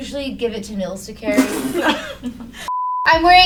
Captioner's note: laugh; beep